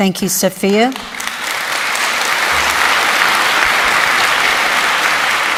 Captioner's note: applause